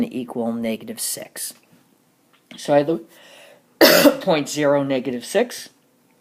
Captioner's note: cough